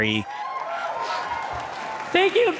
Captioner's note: audience cheers